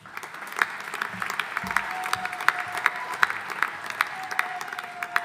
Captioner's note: audience applauding